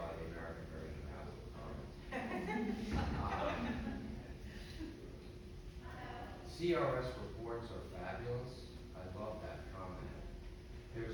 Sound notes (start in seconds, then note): 2.1 crowd laughing